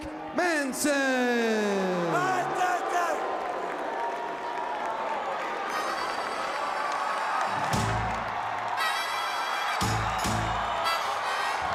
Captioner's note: crowd cheering